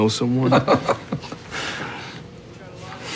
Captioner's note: laughing